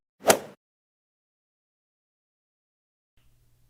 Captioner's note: golf swing sound effect